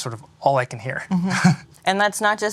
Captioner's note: chuckles